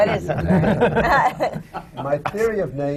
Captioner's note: laughter from the panel